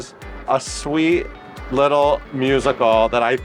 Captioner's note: palms slapping